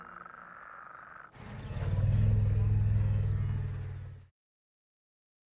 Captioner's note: rumbling